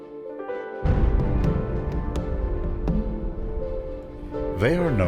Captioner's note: explosion booms